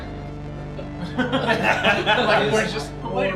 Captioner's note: laughing